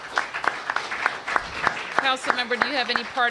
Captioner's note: applause